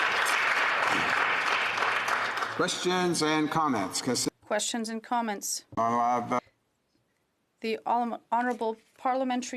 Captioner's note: some Applause